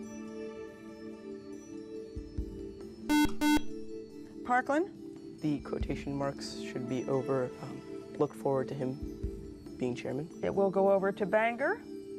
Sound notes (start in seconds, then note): 3.0 buzzer